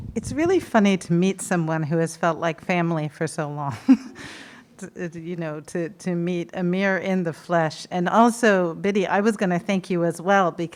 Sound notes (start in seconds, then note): 3.8 chuckles